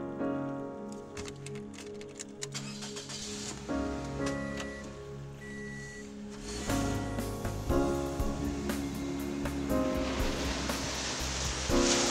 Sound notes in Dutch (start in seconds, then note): 2.8 motor van de auto maakt toeren